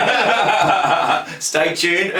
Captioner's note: laughter